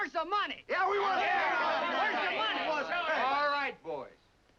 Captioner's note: men shout over each other